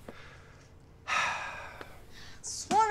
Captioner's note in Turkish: Nefes sesi